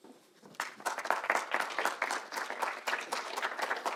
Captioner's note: audience clapping